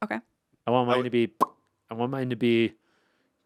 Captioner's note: Anthony pops lips